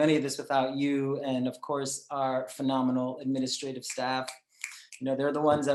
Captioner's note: snaps